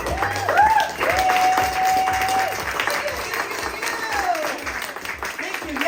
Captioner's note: applause